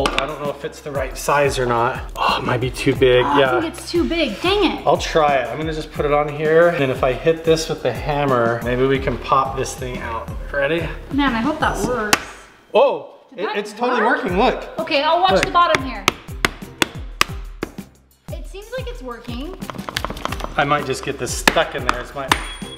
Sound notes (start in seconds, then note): 16.4 hammer clacking; 22.6 bolt clangs